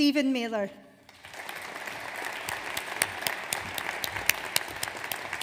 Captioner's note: audience applauds